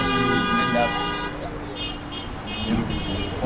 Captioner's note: supporting honks